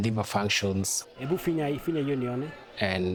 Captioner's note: speaking in foreign language